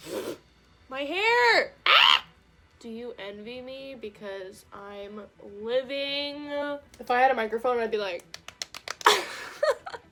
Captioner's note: screams; slaps face